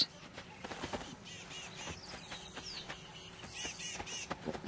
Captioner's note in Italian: cinguettii